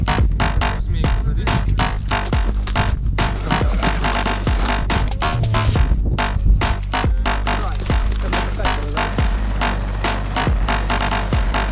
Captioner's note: dynamic music is playing; sound of a helicopter